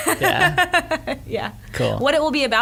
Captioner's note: laughs